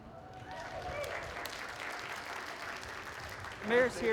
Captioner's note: cheering and applause